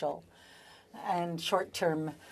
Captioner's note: speaking French